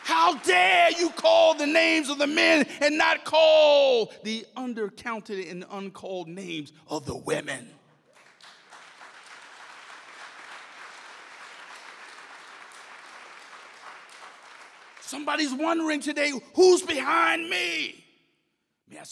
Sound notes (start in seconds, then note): 8.1 audience applauds